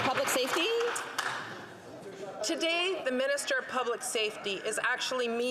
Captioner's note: some Applause